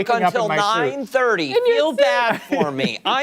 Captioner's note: laughter